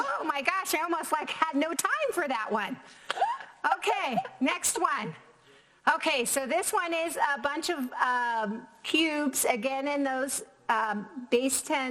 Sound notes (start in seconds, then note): 3.1 laughs